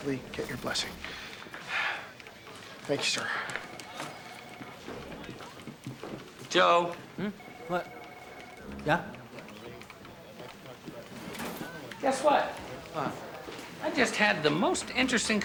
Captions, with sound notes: hopefully get your blessing. (sighs) Thank you, sir. Joe. Hmm? What? Yeah? Guess what? What?